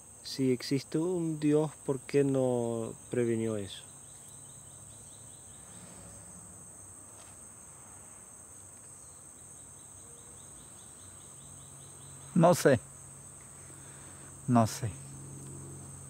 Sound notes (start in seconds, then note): 0.3 speaking in foreign language; 5.3 grasshoppers chirping; 12.0 speaking in foreign language